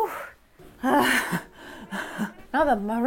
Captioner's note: laughing